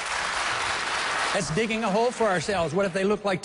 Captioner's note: applause